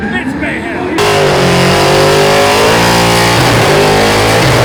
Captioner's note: car engine roaring